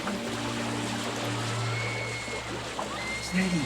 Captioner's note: distant screams